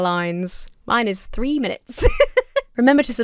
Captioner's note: laughs